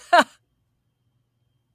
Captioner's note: laughing